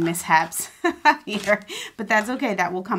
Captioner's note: laughing